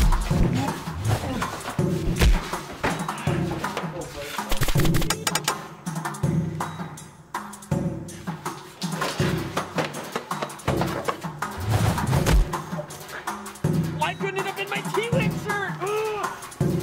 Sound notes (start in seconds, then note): 1.6 crashing and swinging; 4.5 shooting; 9.1 rhythmic drums